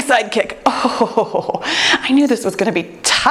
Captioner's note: chuckles